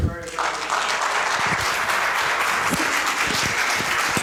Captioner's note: applause